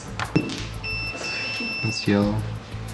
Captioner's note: beeping